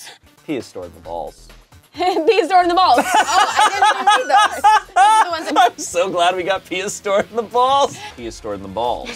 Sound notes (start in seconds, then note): 4.5 laughs